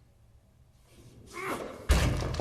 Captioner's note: grunts